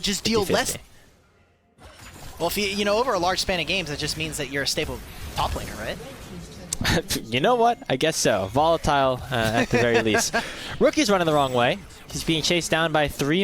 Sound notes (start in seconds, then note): 9.3 laughter